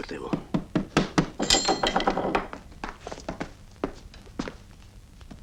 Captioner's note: knocking on door